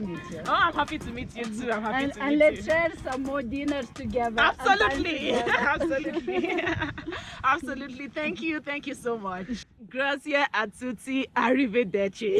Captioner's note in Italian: Risate